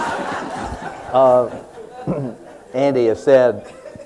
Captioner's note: laughter